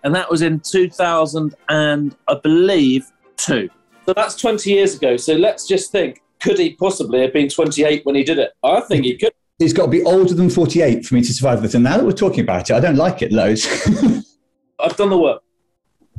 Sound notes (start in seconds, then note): 13.6 laughs